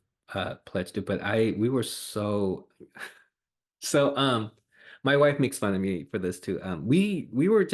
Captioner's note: laughs